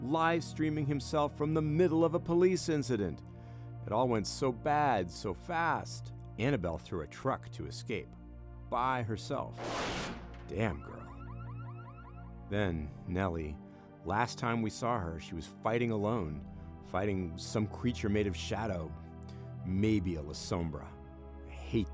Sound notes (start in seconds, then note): 9.6 metal crunches; 10.8 car alarm beeping